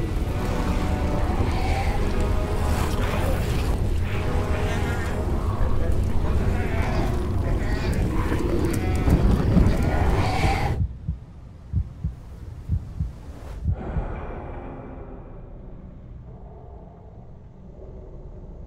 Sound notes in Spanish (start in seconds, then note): 6.7 Ghouls gimiendo